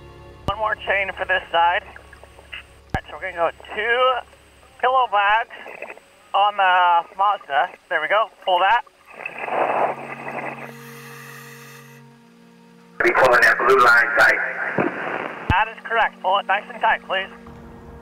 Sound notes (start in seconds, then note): 13.5 radio Voice